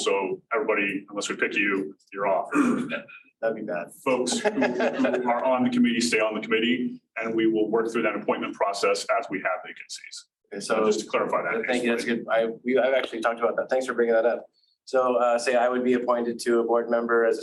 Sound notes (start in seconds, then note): 4.1 laughing